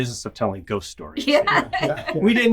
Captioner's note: laughing